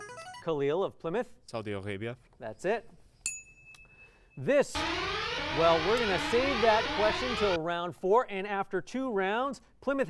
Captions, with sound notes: Saudi Arabia. That's it. [ding] This-- [alarm] Well, we're going to save that question until round four. And after two rounds, Plymouth hanging on to its lead